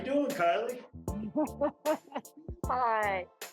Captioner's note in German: lacht